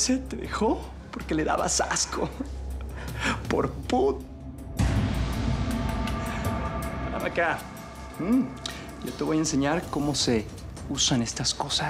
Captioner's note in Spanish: risas